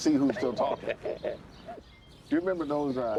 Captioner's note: laughs